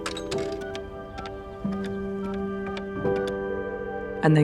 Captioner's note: coin rattling; dial tone beeping; numbers beeping; phone ringing